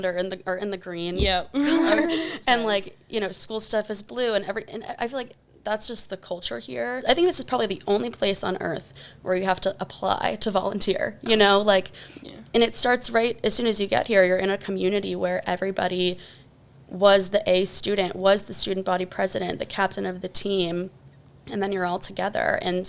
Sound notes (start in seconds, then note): 1.5 both laugh